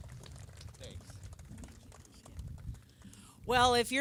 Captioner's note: applause